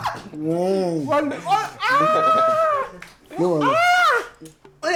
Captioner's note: laughs